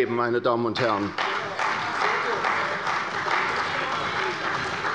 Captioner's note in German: Heiterkeit und Beifall bei der CDU - Zurufe von der SPD